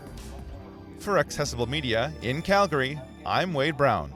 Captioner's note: voiceover